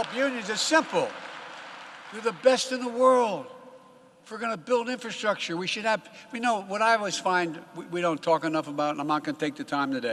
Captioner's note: applause